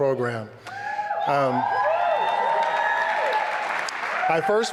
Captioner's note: applause and cheering